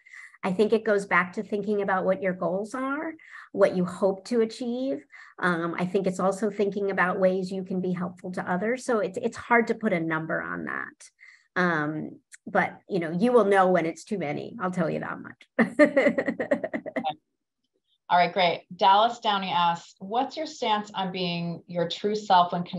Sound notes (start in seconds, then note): 15.9 laughs